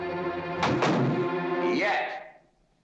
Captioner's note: door slams